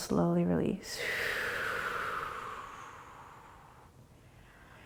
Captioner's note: exhaling